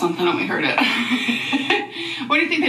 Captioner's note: laughs